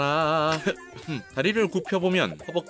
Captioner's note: sighs